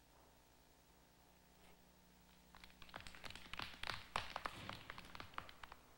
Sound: clapping outside

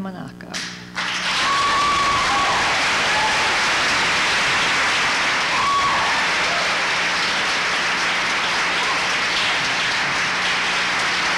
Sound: applause

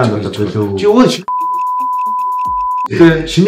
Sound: beep

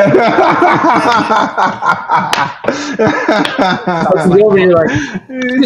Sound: laughter

